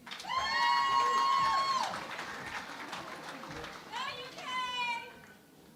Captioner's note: cheering and Applause